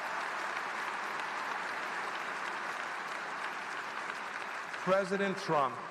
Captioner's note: applause